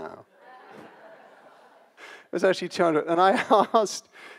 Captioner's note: audience laughs